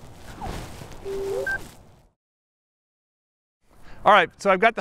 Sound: drone beeps

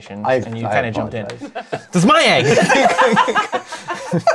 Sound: laughter

